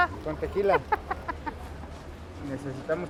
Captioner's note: laughs